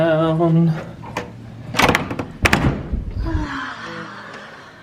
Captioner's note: door clicking